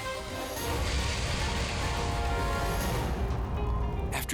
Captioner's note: dramatic music; fire roaring